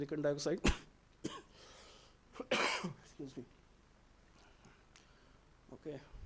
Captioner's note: coughing